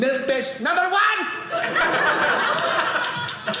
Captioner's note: audience laughing